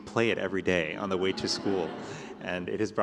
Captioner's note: laughter